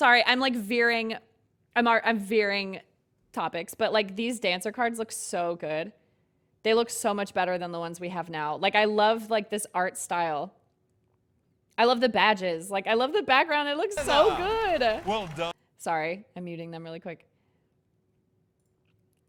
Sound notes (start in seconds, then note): 14.0 game sounds